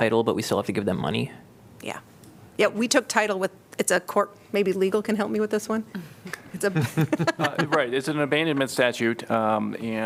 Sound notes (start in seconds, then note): 6.6 laughter